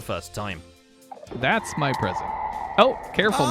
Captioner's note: warden screech